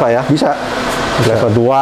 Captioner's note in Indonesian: suara mesin printer